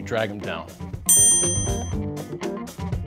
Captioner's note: upbeat music; electronic beep